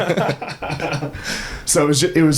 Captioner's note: both laughing